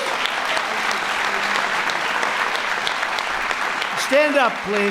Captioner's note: applause